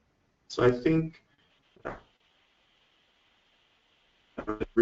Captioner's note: static